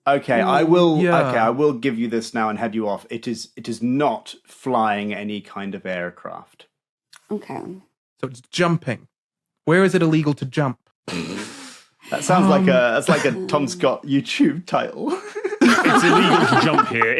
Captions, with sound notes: Okay, I will— Yeah. Okay, I will give you this now and head you off. It is not flying any kind of aircraft. Okay. So it's jumping. Where is it illegal to jump? (snorts) That sounds like a Tom Scott YouTube title. (guests laughing) It's illegal to jump here.